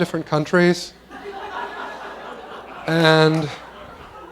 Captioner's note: laughter